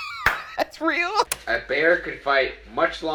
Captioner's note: tape clicks